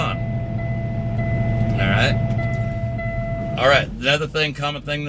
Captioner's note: alarm beeping